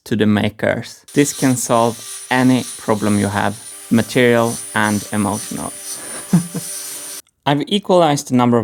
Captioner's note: chuckles